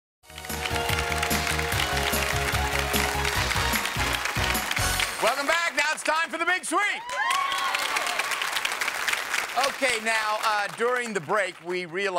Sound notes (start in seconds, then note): 0.2 upbeat game show music; 1.0 audience applauds; 6.7 audience cheers